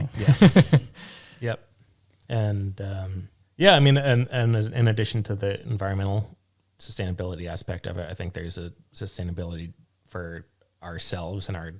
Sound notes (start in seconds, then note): 1.8 laughing